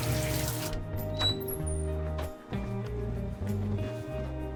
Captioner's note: door creaks